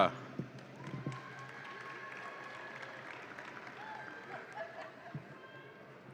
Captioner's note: audience applauds and cheers